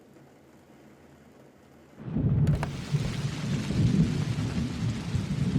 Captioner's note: thunder rumbling